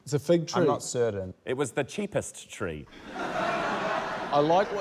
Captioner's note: laughter